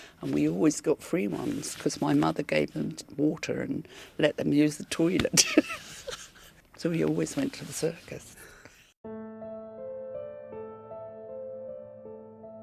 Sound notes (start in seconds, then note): 5.6 laughs; 9.0 melancholy music